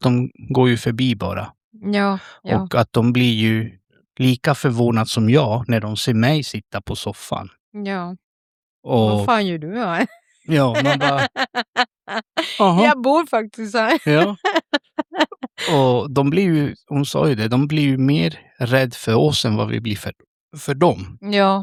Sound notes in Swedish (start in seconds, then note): 10.6 skratt